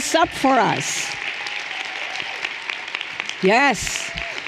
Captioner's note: everyone applauding and cheering